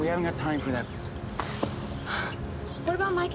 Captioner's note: sighing